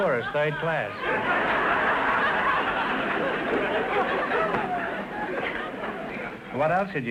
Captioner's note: audience laughter